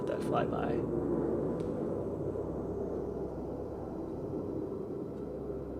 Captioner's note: plane flying overhead